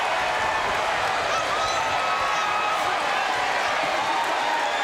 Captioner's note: audience cheering